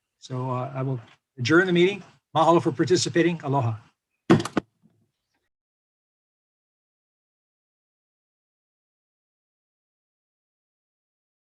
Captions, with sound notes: So I will adjourn the meeting. Mahalo for participating Aloha. (gavel bangs)